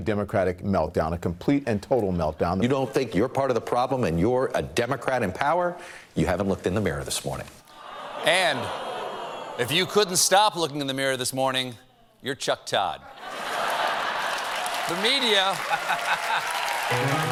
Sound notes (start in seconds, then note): 7.7 audience reacts; 15.4 laughter; 16.9 piano riff; 17.1 applause